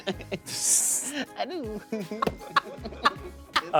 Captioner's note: laughs